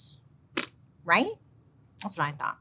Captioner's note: blows raspberry